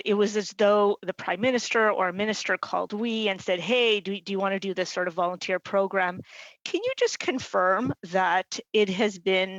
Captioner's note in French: voix de l'interprète